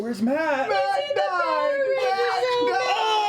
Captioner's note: shouting